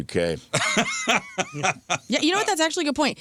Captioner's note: laughing